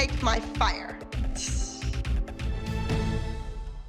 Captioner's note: imitates sizzling